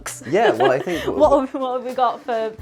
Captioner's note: laughs